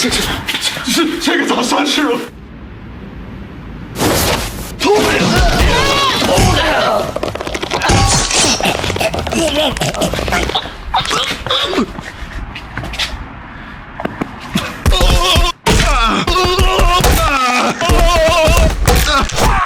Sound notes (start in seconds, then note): 3.6 epic woosh; 10.6 thwack; 14.8 SMACk; 17.8 whack